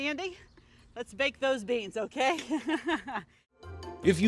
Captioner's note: laughing